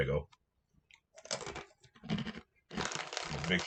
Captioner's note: crunches of resignation